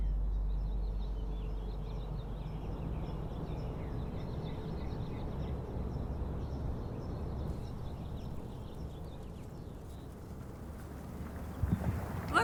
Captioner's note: birds chirping